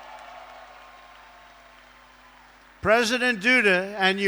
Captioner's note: applause